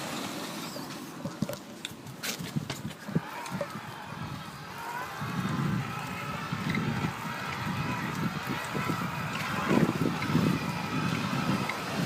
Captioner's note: whirring sound